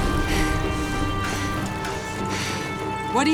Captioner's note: panting